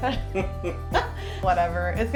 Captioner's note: laughs